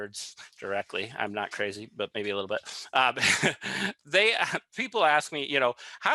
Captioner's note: laughs